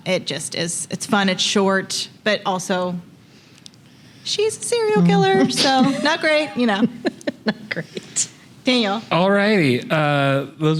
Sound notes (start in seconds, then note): 7.8 laughing